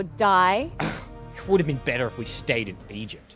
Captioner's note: sighs